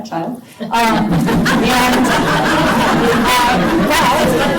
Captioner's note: laughter